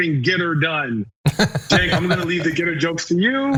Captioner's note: laugh